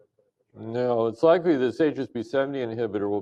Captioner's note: off microphone